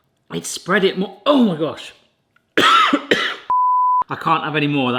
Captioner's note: coughing